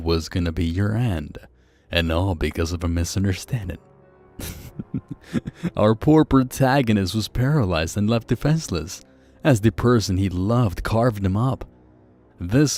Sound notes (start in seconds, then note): 4.4 chuckle